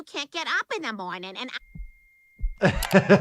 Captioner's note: high static buzzing